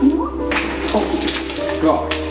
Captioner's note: clatter of rocks